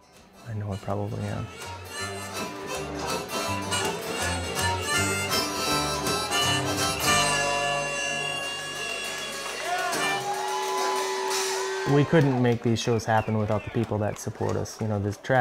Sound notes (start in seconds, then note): 2.2 harmonica music; 8.1 cheering and applause